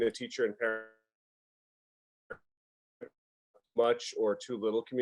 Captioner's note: audio cuts out